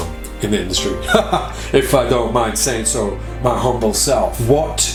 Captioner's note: laughs